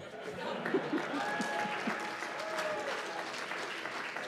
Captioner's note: cheers and applause